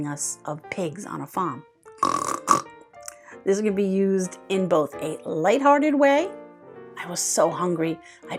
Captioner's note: snorts like a pig